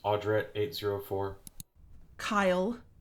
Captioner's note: clicks- recording stops